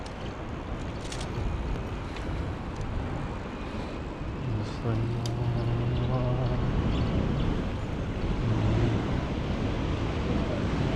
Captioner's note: wind Blowing